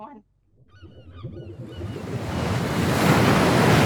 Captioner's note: waves noises